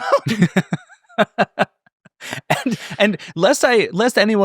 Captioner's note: both laughing